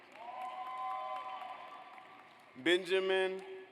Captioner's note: audience applauds